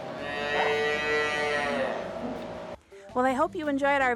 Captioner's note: calf moos